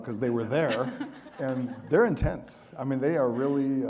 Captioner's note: audience laughing